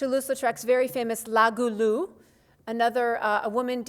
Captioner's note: speaks foreign language